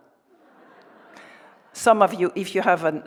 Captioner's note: audience laughing